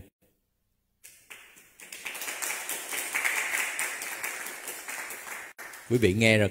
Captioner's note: clap